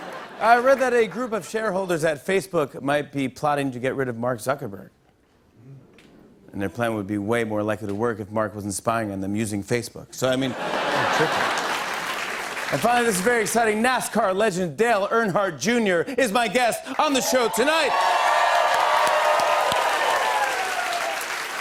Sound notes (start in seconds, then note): 0.0 laughter; 10.4 laughter; 16.9 cheers and applause